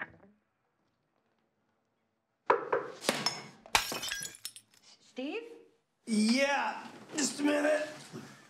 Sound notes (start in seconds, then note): 1.7 knocking; 3.1 cup shatters